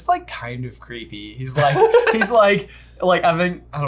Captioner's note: laughs